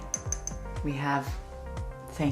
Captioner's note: tapping